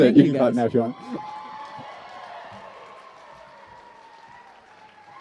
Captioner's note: cheers and applause